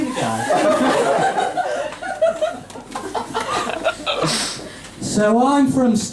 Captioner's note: laughter; exasperatedly